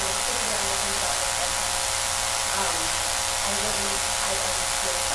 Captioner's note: buzzing drowns out speaker